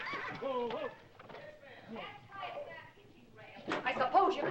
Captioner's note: indistinct yelling